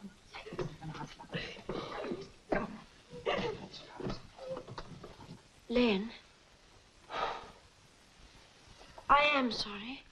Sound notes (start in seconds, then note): 4.4 Mavis crying; 7.1 Len sighs